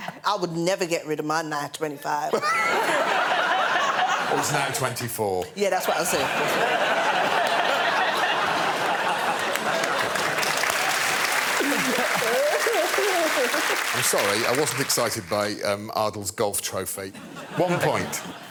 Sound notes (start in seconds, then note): 2.3 laughter; 7.4 laughter; 10.4 applause